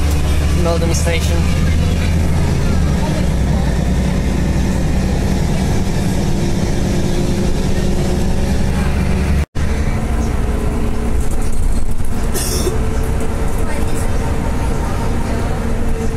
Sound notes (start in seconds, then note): 2.2 bus Noises; 12.3 cough; 12.6 bus Noises